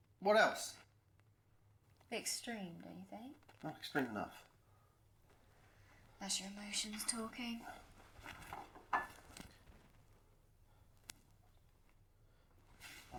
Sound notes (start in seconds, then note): none